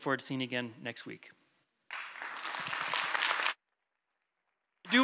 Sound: applause

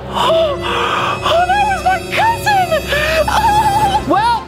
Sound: crying

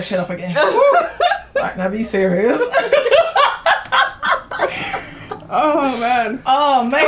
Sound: laughs

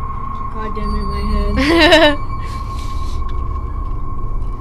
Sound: laughs

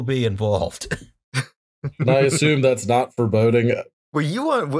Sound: laughter

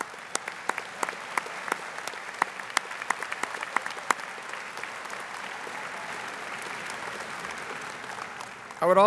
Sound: audience applauding

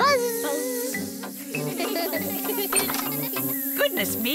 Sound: all laugh

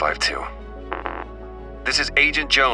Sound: angry beep

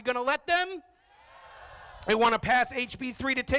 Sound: crowd

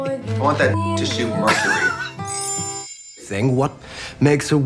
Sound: beep

